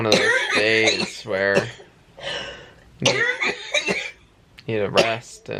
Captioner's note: coughing